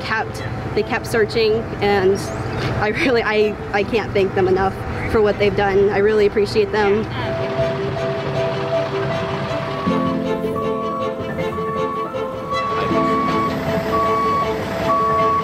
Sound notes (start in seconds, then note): 7.6 frantic music; 10.5 alarm beeping